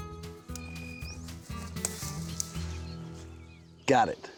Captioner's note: snapping, cutting sound